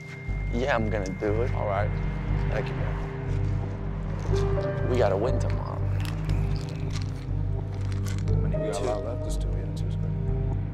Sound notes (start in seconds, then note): 3.4 dramatic piano over ominous orchestral music; 5.3 pills rattling